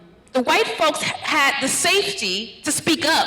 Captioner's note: none